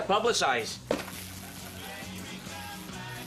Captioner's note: static feedback